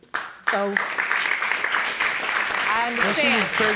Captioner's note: applauding